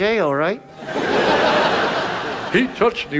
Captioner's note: audience laughs